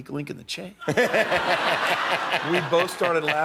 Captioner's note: laughter